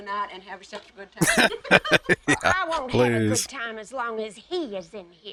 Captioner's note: laughing